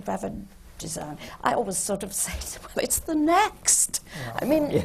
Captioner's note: laughs